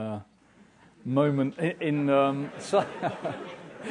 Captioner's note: laugh